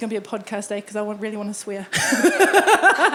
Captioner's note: laughing